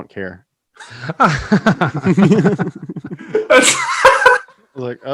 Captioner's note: hosts laughing